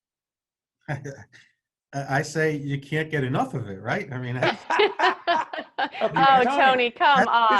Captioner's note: all laughing